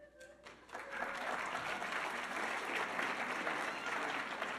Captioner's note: audience applauding